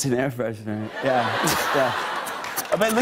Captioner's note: laughter